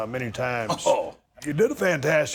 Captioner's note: chuckles